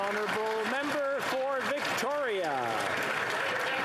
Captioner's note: some Applause